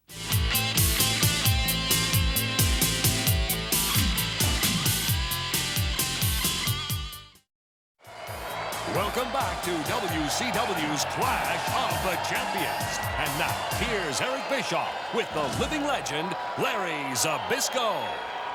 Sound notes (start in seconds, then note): 0.0 spectators cheering; 0.4 upbeat music; 8.2 spectators cheering; 8.2 upbeat music